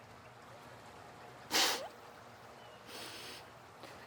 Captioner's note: sniffs